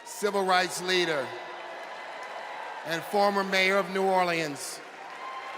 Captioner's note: applause